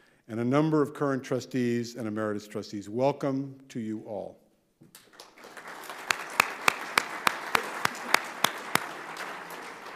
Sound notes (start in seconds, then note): 5.0 audience applauding